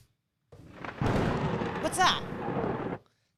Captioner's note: thunder clapping